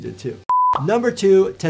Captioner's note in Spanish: pantalla pitando